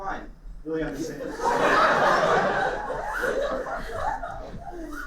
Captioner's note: laughter